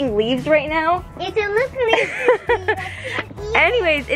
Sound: laughing

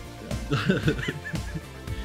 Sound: laughs

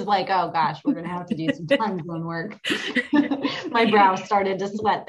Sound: laughing

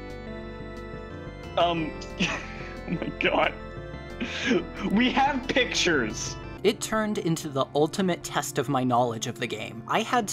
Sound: laughs

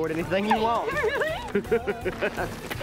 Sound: laughing

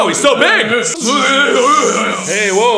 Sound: angry grunting

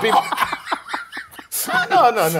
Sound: laugh

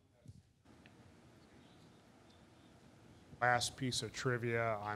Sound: speaking off mic

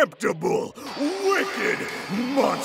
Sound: crowd cheers

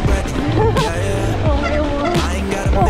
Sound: laughing

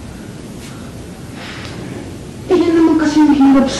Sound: sighs

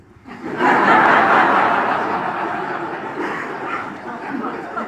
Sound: audience laughs

